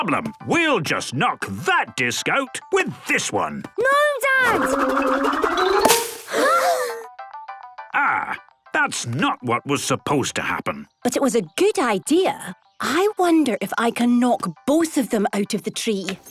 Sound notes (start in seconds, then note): 6.2 all gasping